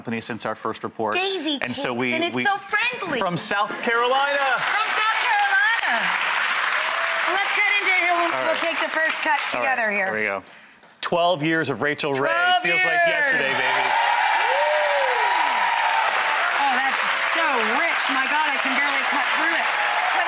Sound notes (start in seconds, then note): 7.3 audience applauding; 13.2 audience cheers and applauds